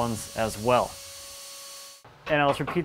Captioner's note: router buzzes